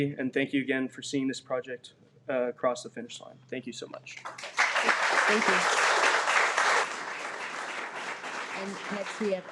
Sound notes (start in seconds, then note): 4.2 audience applauding